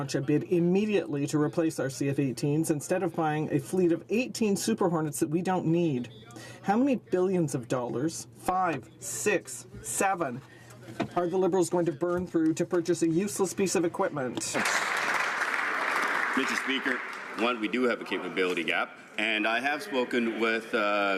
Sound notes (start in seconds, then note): 17.3 some Applause